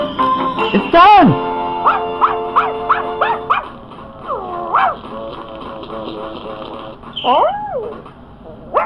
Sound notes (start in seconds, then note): 1.8 Spot Barking